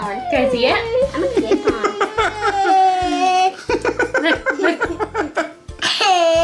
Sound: dad laughs

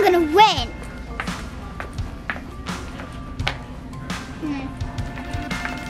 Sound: shoes clacking

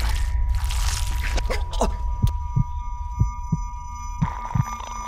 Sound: heart beating

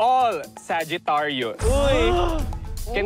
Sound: campers gasp

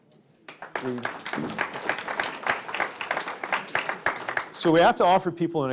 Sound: applause

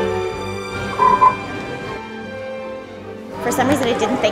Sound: chocolate frogs croaking

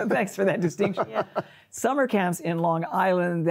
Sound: chuckles

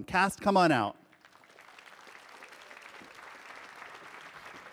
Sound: audience applauding

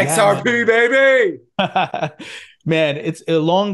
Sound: chuckling

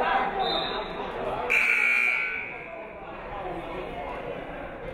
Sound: buzzer buzzes; referee whistles

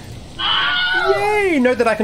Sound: Wilhelm Scream

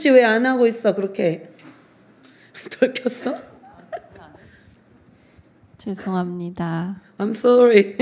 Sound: laughs

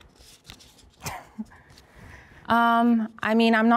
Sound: laughs

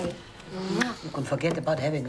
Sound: kisses

